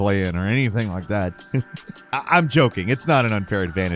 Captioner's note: laughs